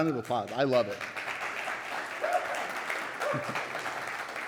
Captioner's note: audience applauding